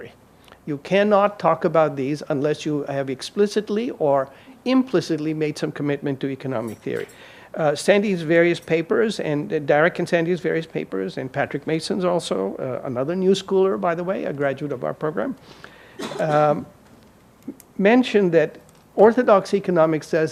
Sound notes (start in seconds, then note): 15.9 audience member coughs